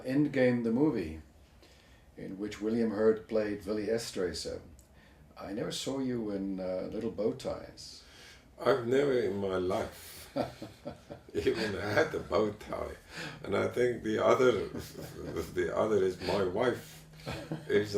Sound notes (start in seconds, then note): 11.2 laugh